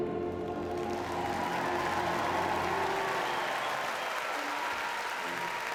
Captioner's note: audience cheers and applauds